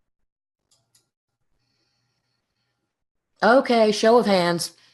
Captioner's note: mouse clicks